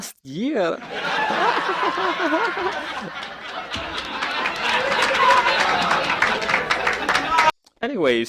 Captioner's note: canned laugh